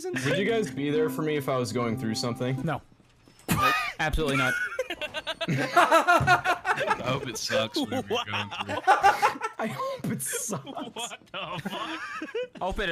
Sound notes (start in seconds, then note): 4.2 laughs